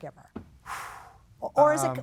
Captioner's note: exhales sharply